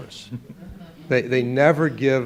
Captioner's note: audience laughing